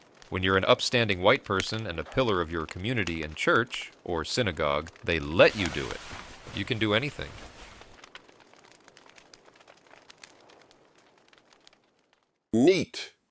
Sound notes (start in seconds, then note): 7.3 sound of boners rustling fabric